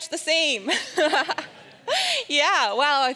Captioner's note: laughing amusingly